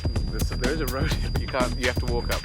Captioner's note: laughs